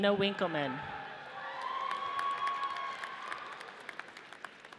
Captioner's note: audience cheers